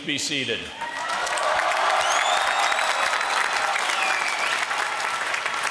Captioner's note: applause